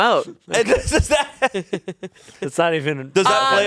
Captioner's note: laughs